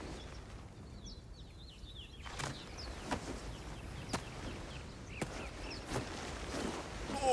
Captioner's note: birds chirping